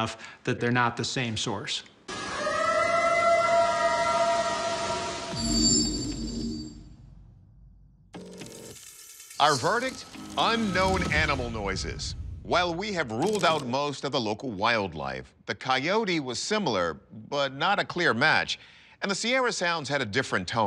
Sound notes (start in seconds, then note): 2.1 eerie howl